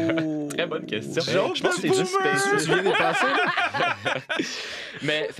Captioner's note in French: rires et brouhaha